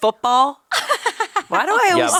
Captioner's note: laughing